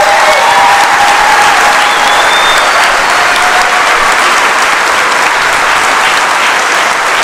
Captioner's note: cheers and applause